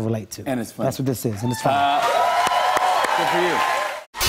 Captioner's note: cheers and applause